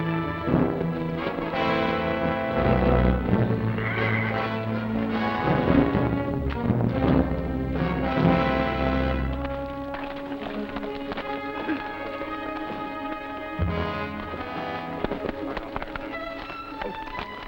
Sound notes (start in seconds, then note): 3.4 horse neighs